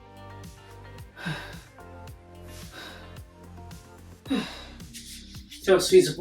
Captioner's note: tired breathing